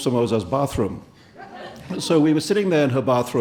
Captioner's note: audience laughing